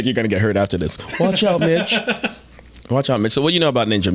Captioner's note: laughing